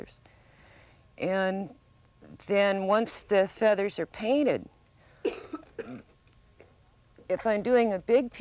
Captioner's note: cough